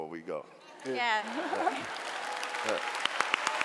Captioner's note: clapping